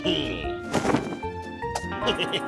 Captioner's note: laughs